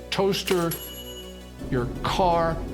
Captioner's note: toaster ringing; car revving